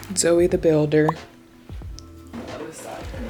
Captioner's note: pop